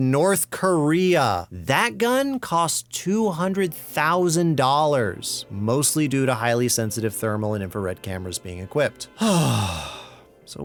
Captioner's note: sigh